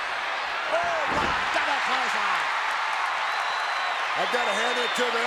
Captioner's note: audience cheers